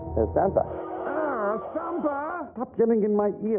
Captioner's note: radio interference